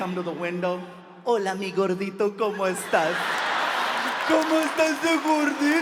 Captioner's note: speaking in foreign language